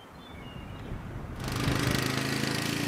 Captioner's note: birds chirping; engine roaring